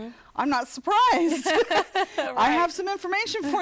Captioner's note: laughter